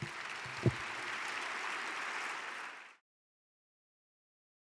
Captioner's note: audience cheering